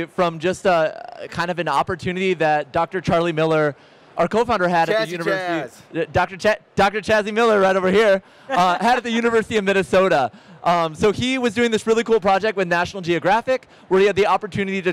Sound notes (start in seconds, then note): 8.5 laughs